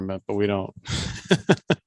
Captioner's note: laughs